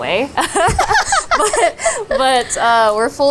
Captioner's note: both laughing